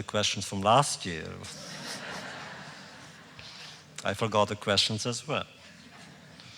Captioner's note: laughter